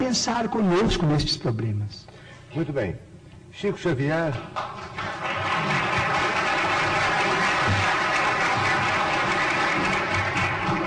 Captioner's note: applause